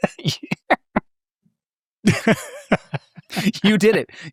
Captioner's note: laughing; participants laughing